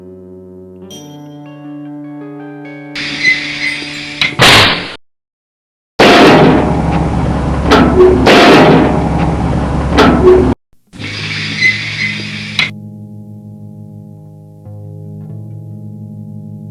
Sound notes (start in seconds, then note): 5.9 dumbwaiter clanking; 13.6 foreboding music